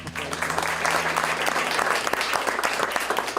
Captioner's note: applause